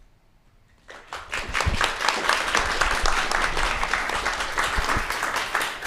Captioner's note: audience applauding